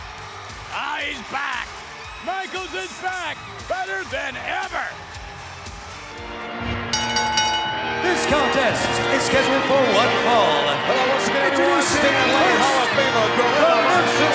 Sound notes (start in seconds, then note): 5.9 dramatic music; 6.8 bell rings